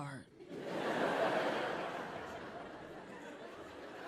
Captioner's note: audience laughing